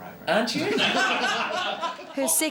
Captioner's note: laughter